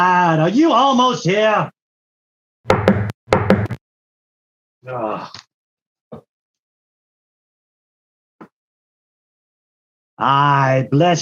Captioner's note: knocking on Door